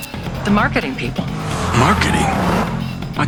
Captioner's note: chiming music; sirens wailing; car engine revving